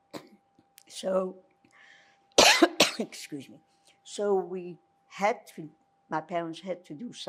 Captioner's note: coughing; coughing